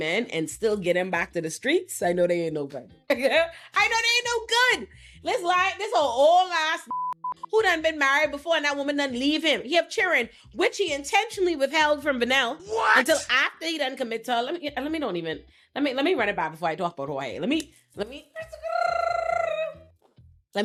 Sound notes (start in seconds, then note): 6.9 beep